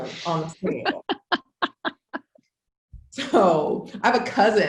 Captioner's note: laughs